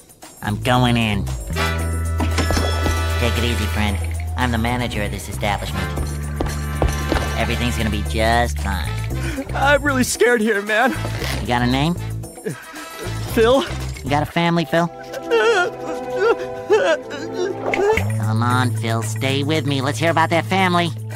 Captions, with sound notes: I'm going in. [door opening] Take it easy, friend. I'm the manager of this establishment. Everything's gonna be just fine. I'm really scared here, man... You got a name? -Phil. -You got a family, Phil? [sobbing] [snapping fingers] Come on, Phil, stay with me. Let's hear about that family.